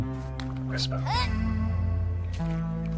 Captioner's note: whisper